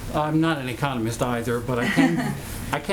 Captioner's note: laughs